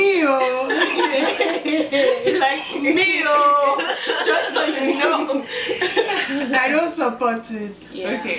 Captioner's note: laughter